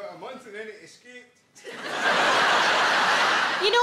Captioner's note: audience laughing